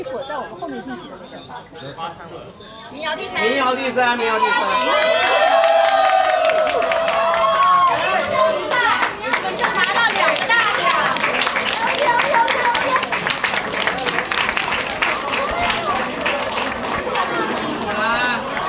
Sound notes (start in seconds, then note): 5.4 cheers; 11.5 applause